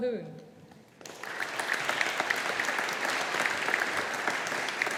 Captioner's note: audience applauding